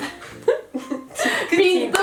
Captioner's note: laughs